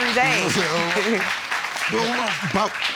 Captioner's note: audience clapping; chuckles